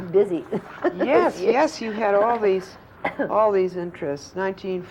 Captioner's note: laughter